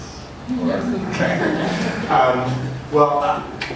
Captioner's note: audience laughs